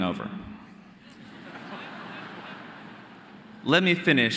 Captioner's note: audience laughing